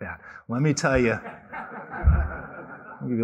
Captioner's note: laughter